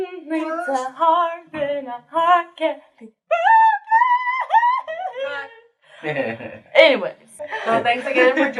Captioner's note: singing; laughter